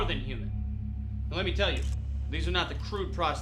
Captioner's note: camera clicking